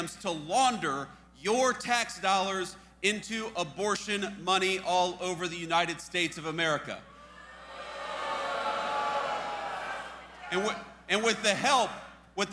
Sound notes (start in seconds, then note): 7.2 audience boos